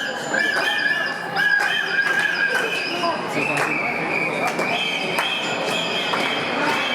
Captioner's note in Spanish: Silbatos